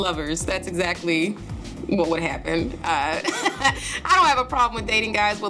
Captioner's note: laughing